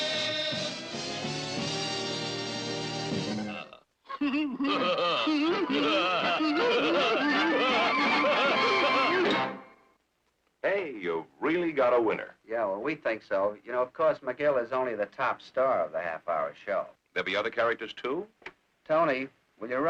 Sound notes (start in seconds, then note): 4.1 they laugh